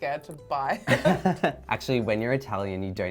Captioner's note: laughs